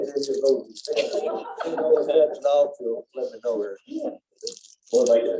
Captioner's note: laughter